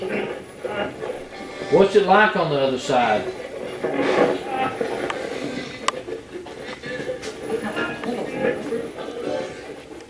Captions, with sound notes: What's it like on the other side? (radio channel changing)